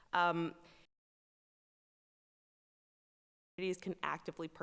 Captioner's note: audio cuts out